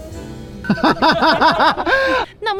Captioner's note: laughing